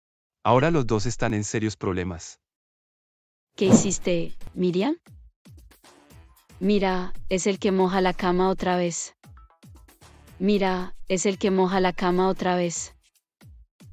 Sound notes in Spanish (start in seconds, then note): 3.6 FX - Whoosh - 03